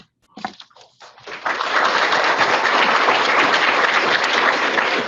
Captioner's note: audience applauding